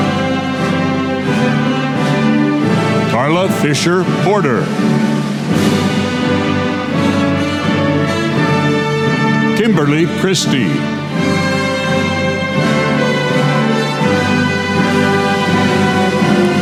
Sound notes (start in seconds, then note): none